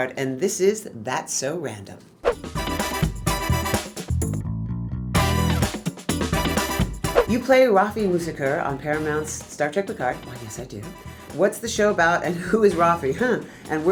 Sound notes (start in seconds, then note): 2.2 air whooshing; 2.3 upbeat music; 7.2 air whooshing